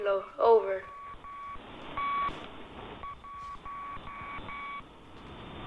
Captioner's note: beeping and hissing